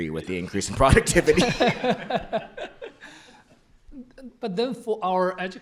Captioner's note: laughter